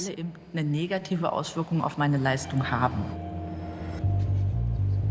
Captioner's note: speaks German